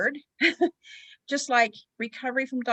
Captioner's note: giggles